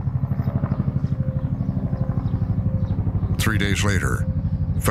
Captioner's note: helicopter whirring